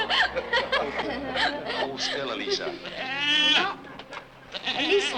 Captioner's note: laughter; Elisa, the goat, bleats